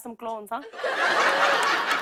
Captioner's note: laughter